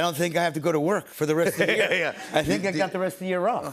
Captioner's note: chuckling